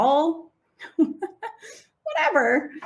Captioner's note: laughing